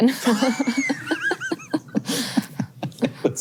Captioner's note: both laughs